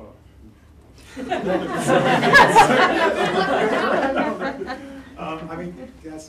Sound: laughter

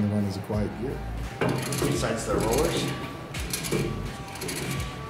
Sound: high pitched rollers jostling; smooth, low gear rumble

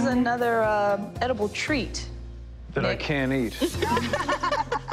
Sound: laughter

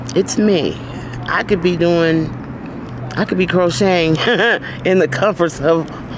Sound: chuckling

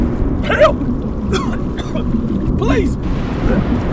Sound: drowning

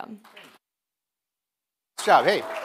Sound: audience clapping

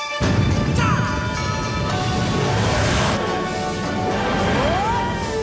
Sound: sleigh bills chime

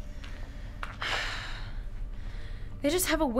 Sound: sigh

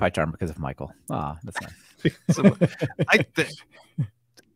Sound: laughs

